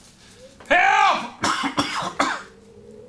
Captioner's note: caughs